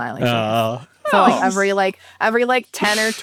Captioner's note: awing